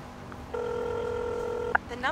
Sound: dialing

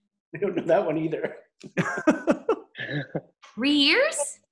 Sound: laughing

